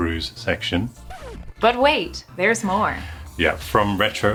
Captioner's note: record scratching